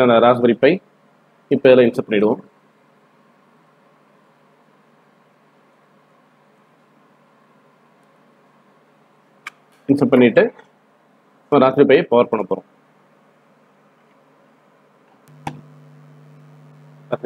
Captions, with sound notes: This is the Raspberry Pi. Now insert it *click* After inserting, Now power the Raspberry Pi. *another click*